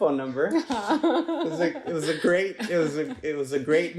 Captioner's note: laughs